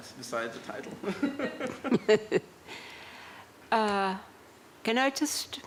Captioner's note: laughter